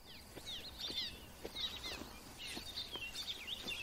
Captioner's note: birds chirping